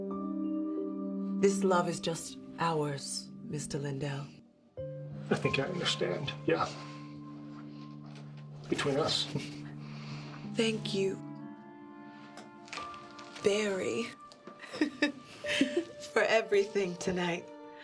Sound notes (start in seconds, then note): 14.6 laughs; 14.6 Joan laughs